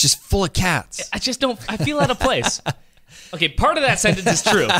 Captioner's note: laughing